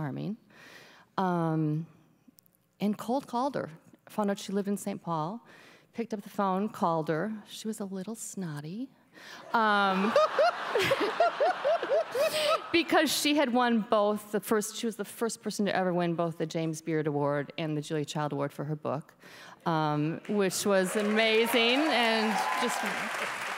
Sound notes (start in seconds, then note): 9.8 audience laughs; 23.3 applause